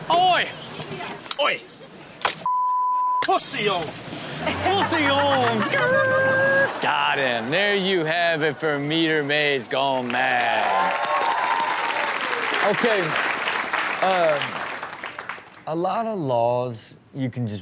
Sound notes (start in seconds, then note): 2.4 beep; 9.8 audience applauds